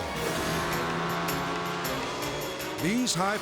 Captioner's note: boat engine roaring